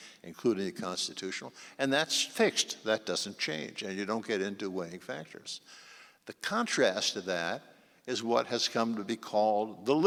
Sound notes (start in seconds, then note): none